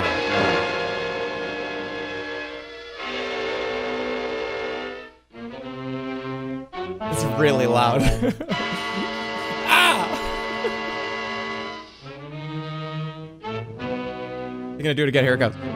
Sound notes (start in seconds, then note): 0.0 unsettling music; 7.9 chuckles; 8.5 piercing note plays; 10.0 chuckles